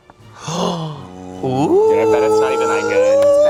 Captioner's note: dramatic music; gasps